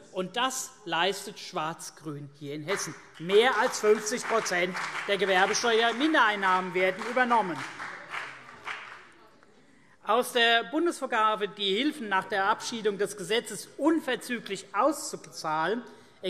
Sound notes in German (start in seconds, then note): 7.7 Beifall CDU und BÜNDNIS 90/DIE GRÜNEN